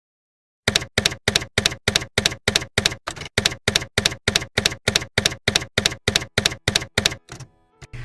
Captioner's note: typewriter keys clacking